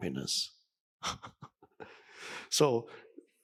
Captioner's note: Eckhart chuckling